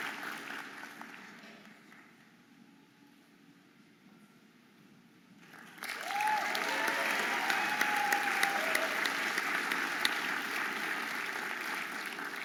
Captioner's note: audience applauding and cheering